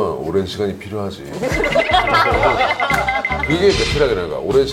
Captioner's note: laugh